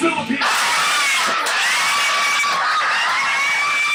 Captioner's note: group screaming